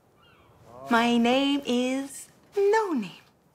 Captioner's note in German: auf Englisch